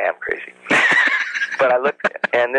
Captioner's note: laughs